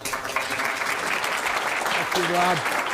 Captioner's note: audience applauding